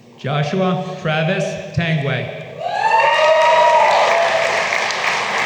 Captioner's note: applause